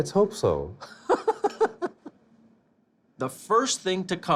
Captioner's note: laughs